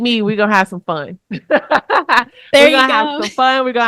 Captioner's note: chuckles